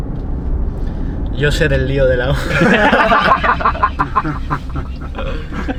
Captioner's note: laughs